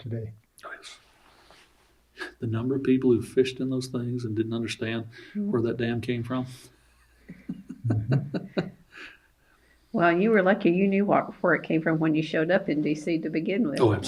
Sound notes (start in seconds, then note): 7.1 laughs